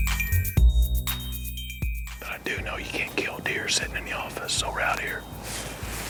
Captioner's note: whispering